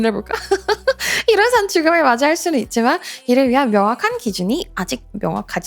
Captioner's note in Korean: 웃음